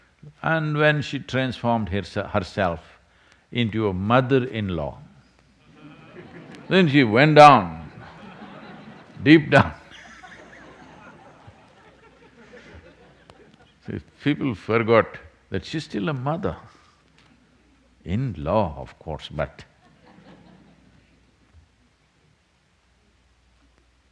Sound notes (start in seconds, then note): 12.2 laughs